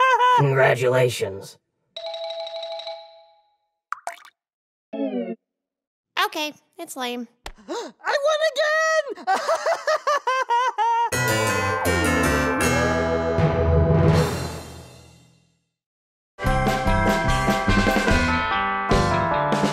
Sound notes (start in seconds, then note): 0.0 laughing; 8.2 voiceover; 9.0 laughing; 11.1 music